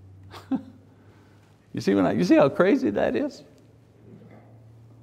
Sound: laughs

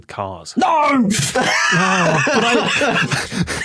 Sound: group laughing

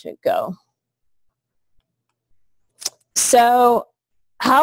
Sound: pause

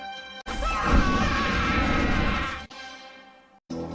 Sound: screaming; 80s music plays

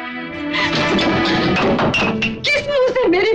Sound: rattling

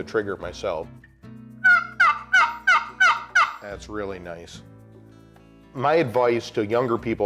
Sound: turkey call

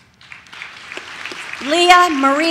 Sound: audience claps

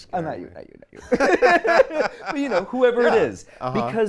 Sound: laughs

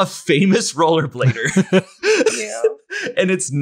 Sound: laughs

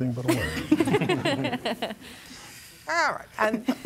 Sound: laughter

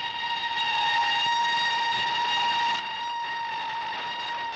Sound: train whistles

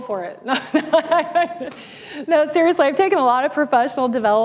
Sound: laughs

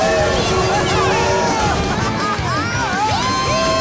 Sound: cheering, laughing

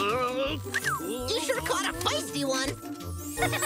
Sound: whistles; laughs

